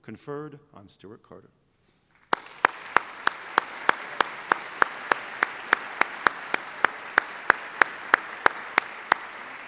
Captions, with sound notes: conferred on Stewart Carter. [APPLAUSE]